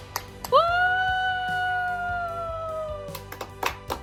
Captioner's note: whooping; applauding